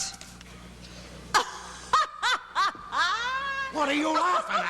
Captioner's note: laughs